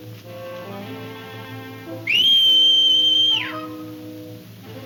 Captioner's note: Jim whistles; horse whinnies